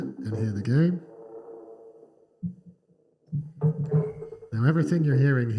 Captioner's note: electronic tones